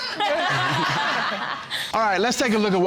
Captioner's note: all laughing